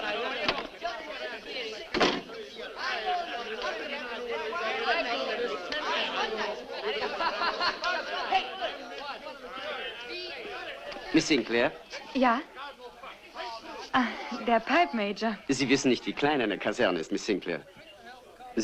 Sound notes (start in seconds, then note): 1.9 door opens, closes; 4.3 indistinct chatter